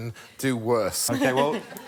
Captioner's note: laughter